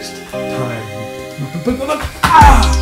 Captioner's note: cries out as his body hits the floor; upbeat electronic music